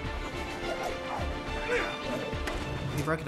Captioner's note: grunts